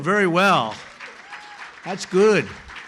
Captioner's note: applause